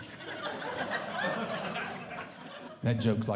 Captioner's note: audience Laughing